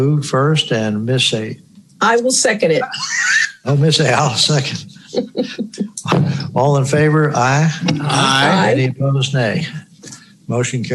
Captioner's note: laughing